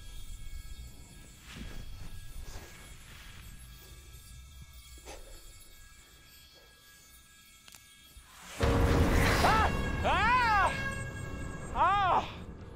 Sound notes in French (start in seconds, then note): 7.6 craquement de branche